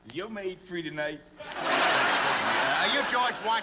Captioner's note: laughter